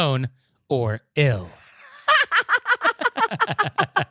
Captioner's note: laughter and giggling